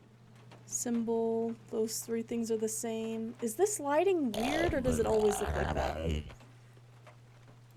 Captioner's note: guttural Noises